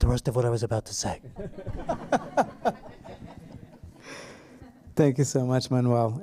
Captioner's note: laughter